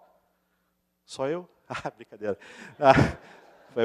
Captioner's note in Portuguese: risos